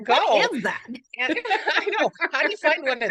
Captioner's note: laughs